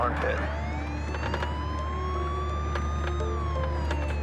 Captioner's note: siren